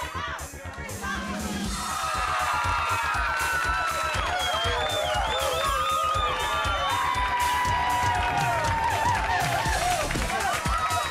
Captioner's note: crowd cheering